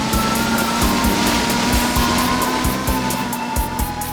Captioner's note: humming